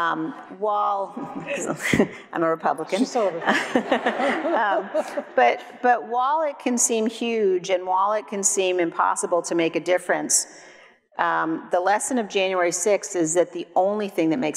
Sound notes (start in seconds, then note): 3.0 laughs; 3.2 audience laughs; 3.3 everyone laughs